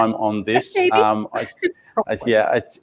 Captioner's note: laughs